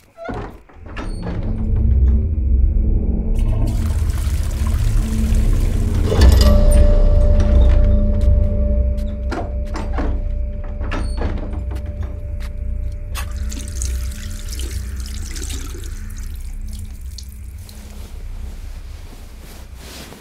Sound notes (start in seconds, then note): 3.3 water flushing